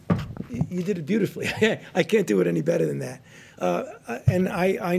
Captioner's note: laughs